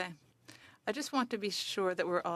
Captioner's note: speaking French